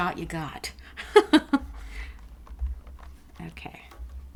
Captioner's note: laughing